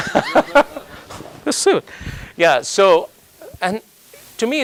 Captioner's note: laugh